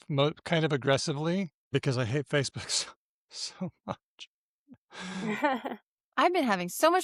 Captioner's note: laughter